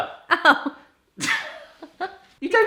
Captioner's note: laughing